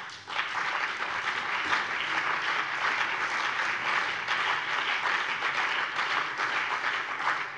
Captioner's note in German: Beifall BÜNDNIS 90/DIE GRÜNEN und vereinzelt CDU